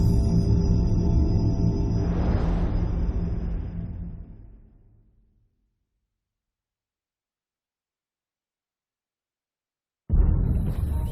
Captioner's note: dramatic sound